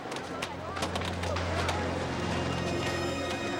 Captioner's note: skateboards clanking; suspenseful music